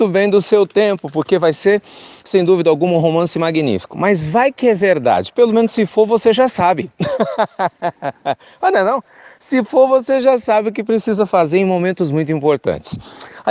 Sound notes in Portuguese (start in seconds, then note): 7.0 risos